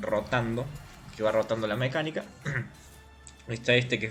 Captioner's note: gargles